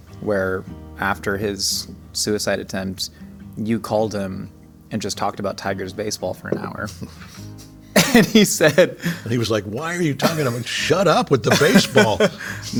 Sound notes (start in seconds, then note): 7.9 J.K. chuckling; 7.9 laughing